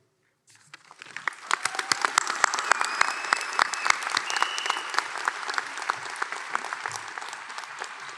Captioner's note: applause